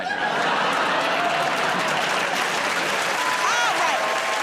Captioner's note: laughter, applause